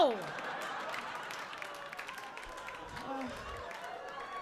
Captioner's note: audience laughing